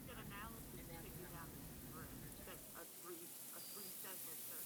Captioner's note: group chattering